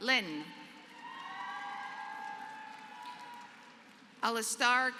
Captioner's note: applause